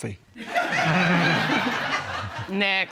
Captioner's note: laughter